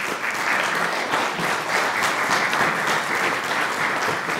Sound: applause

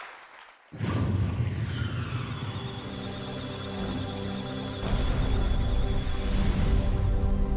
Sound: musical tones; electronic sounds of data

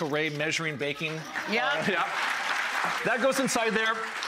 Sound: applause

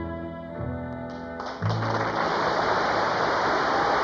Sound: applause

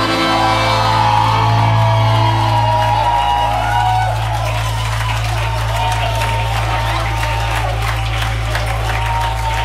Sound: cheering

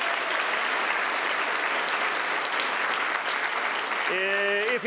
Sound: applause

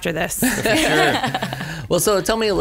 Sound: laughs

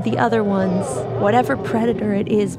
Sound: the sounds of a struggle, not too intense, but quite tense, follow

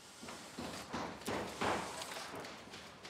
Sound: hammering, drilling in the background

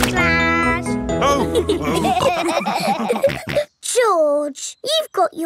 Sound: all laughing

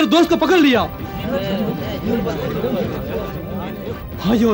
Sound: indistinct chatter

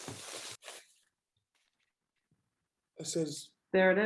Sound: paper rattling

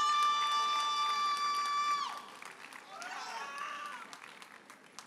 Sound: audience cheers and applauds

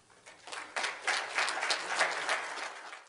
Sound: audience clapping

